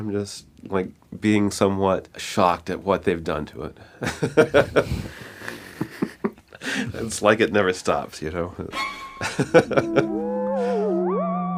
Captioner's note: laughs